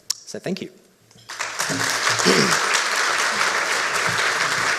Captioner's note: audience applauds